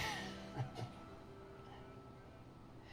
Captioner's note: Riley laughs